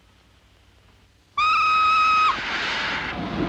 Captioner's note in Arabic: صافرة القطار; هسهسة البخار